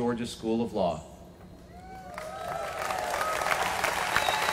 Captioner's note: applause